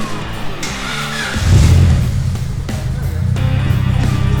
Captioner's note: engine starts